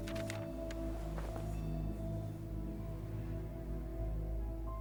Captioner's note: paper rustling